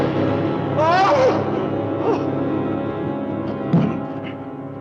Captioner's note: mysterious music; Victor shrieks; crowbar thudding